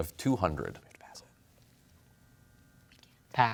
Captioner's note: whispers